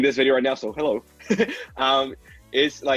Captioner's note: laughs